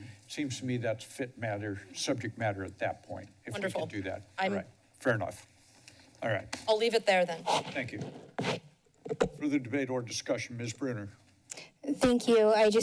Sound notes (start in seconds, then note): 9.0 mic sounds